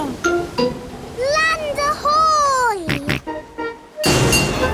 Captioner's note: snorts